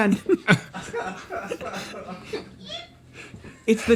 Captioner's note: crew laughing